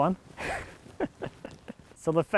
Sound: chuckles

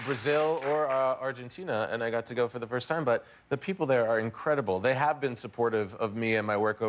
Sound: cheers and applause

